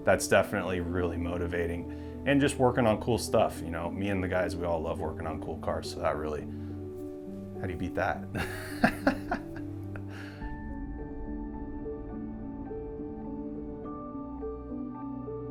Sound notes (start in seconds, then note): 8.3 laughs; 11.8 ethereal music continues